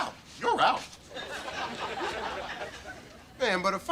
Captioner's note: audience laughter